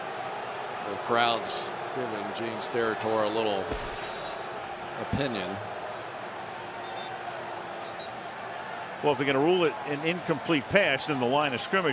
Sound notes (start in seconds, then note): 0.5 booing; 7.9 whistle